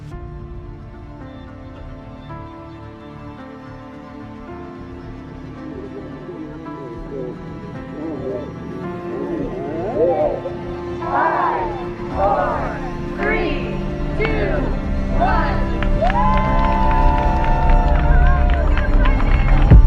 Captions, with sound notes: - [Crowd] Five, four, three, two, one! (crowd cheers and claps)